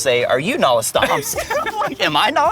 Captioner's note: laughs